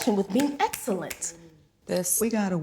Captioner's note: sade snapping fingers